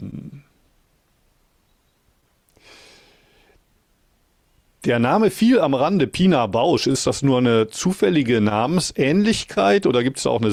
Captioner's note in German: schnauben